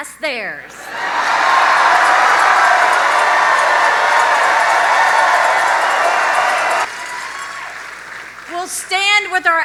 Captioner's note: audience cheers loudly